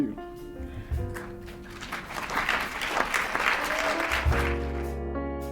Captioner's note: audience applauds; slow instrumental music